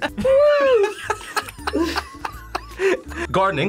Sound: React laughs

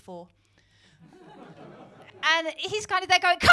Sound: laughter

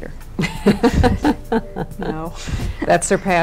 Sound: laughing

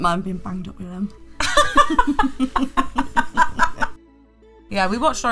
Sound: both laughing

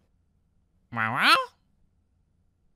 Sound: squawk

